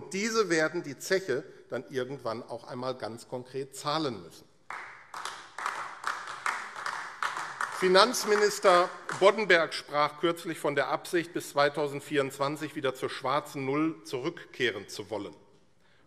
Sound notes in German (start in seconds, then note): 4.6 Beifall AfD